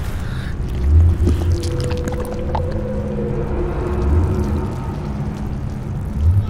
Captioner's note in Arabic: أصوات قرقرة مخيفة